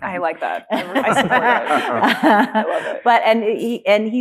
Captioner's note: laughing